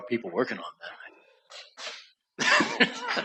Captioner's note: laughter